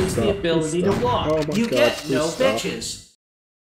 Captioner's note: quietly weeps and begs to stop